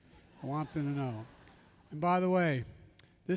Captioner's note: laughter